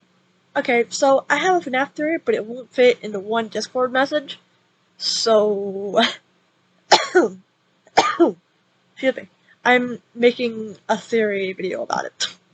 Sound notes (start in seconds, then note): 8.0 cough x2